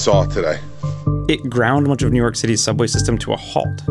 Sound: voiceover

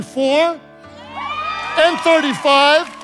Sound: congregation cheering

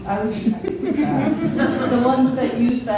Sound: laughing

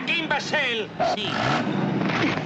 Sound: tires screeches

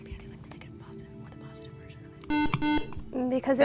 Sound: buzz

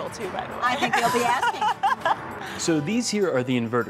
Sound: laughter

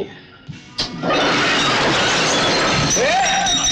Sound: bottle shatters

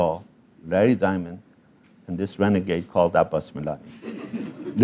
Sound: laugh

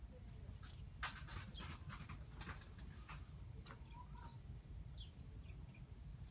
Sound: bird ambience

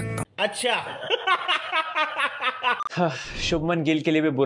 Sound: laughing

